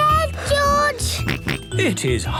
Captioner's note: panting; snorts